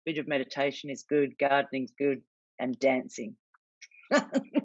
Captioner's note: laughs